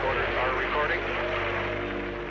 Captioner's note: people cheering; people clapping